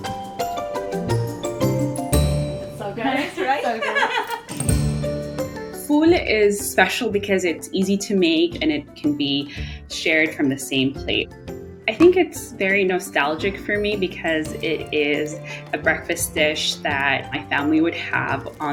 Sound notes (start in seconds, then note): 0.2 bright music; 3.0 laughs